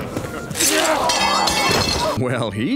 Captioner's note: crowd gasps